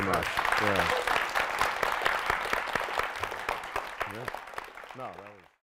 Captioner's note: applause